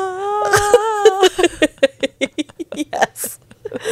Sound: panel laughing

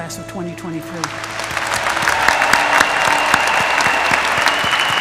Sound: applause

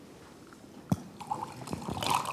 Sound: pouring liquid

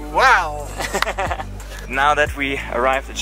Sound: laughs

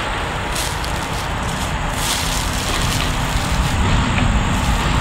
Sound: footsteps crunching

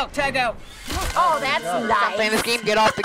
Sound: bones crunching

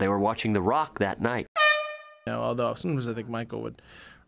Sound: air horn

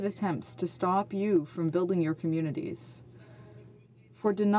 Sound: speaking French

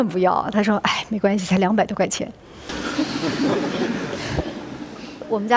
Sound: laughter

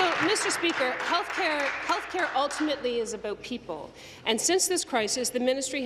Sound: applause

